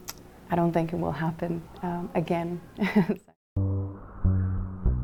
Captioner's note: laughs